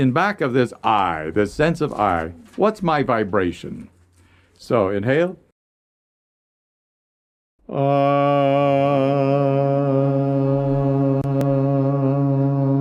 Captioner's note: chanting